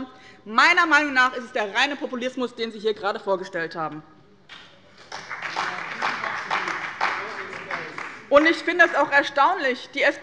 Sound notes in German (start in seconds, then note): 4.9 Beifall bei dem BÜNDNIS 90/DIE GRÜNEN und der CDU